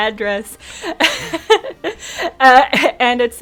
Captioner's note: laughs